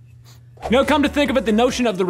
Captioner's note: sniffles